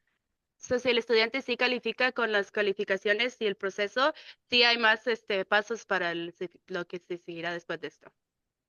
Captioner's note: speaking in Spanish